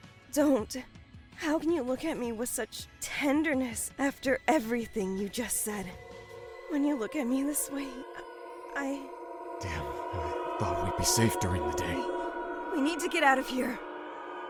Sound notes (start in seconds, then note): 6.1 cries in the distance